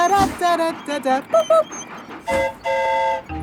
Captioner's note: mimics train whistle; train whistle toots